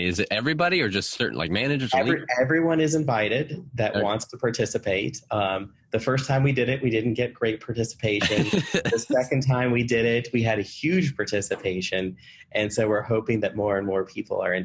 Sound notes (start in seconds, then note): 8.2 laughing